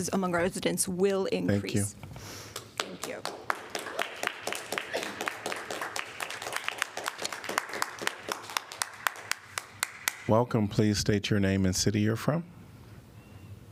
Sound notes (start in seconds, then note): 6.6 applause